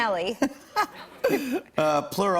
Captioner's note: laughter